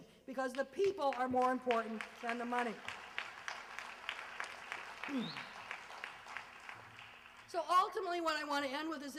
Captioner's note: applause